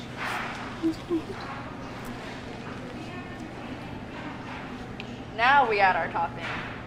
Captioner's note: giggles quietly